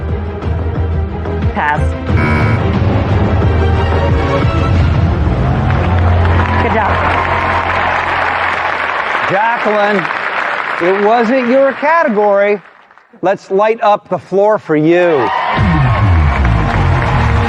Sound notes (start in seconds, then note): 2.1 buzzer sounds; 5.2 cheering and applause